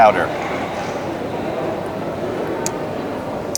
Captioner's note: eating